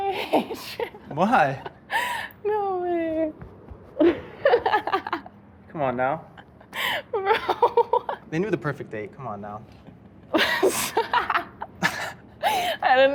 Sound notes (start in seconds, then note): 4.0 laughs; 7.0 laughs; 11.1 chuckles